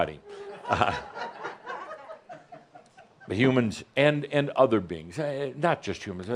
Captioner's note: more chuckles